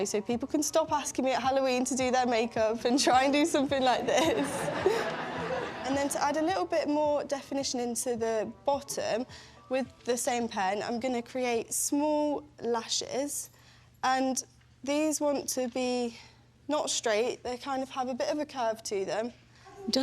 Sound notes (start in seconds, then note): 4.1 laughter